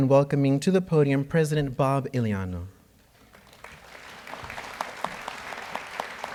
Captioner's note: audience applauds